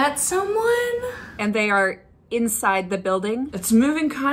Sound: excited; nervous

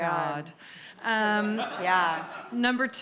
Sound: audience laughs

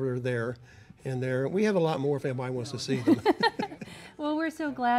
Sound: laugh

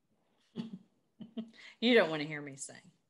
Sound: laughs

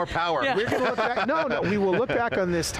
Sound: panelists laughing

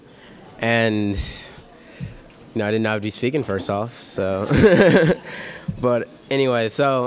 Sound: laughter

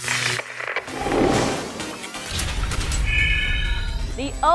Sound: sound Effects

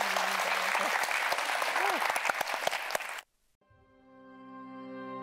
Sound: audience applauding

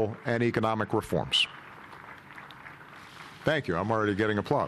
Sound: applause heard from another room

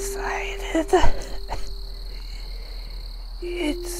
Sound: cough cough

